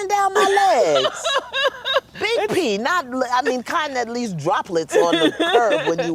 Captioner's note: laughter